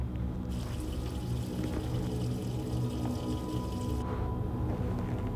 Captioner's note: water facet running